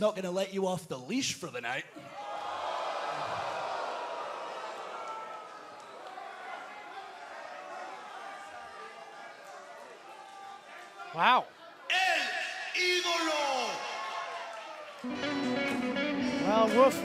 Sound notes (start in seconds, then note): 3.2 crowd chatter